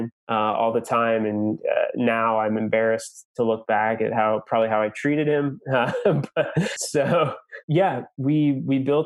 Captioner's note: laughs